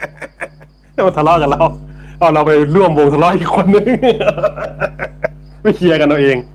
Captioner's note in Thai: เสียงหัวเราะ